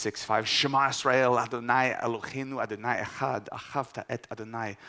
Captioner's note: speaking in Hebrew